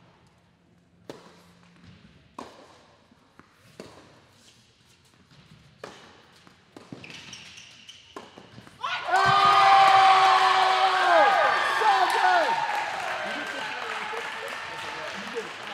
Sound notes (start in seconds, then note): 8.8 cheering